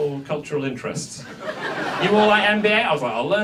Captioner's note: audience laughs